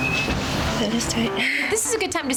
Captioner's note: laughs